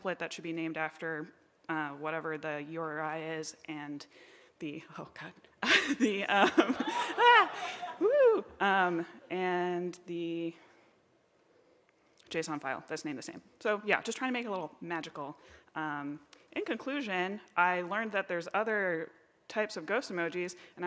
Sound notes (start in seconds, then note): 6.4 laughs